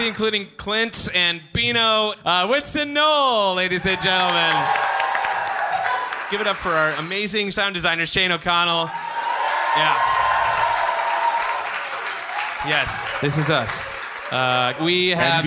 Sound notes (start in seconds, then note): 8.8 cheering, applause; 12.7 applause continues